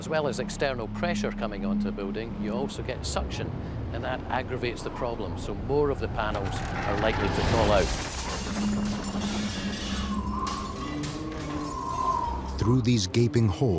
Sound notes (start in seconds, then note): 8.7 glass shatters; 11.6 wind whistles